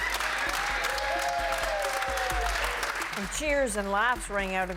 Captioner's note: applause